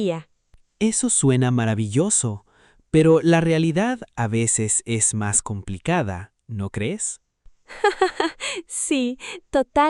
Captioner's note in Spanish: risas